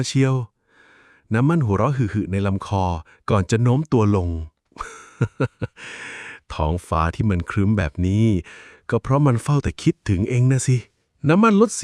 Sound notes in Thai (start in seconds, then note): 4.8 เสียงหัวเราะ; 5.7 เสียงหายใจอ้าปากค้าง